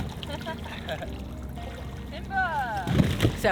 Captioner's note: both laughing